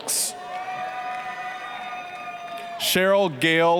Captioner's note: applause, cheering